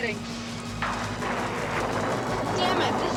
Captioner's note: thunder crashing